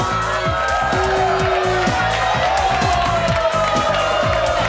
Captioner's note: audience booing